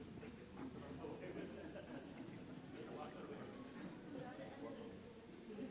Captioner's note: audience chattering